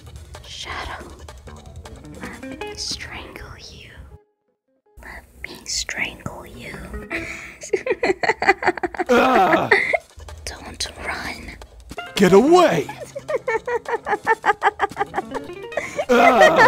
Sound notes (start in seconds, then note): 7.1 laughs; 12.6 laughs Maniacally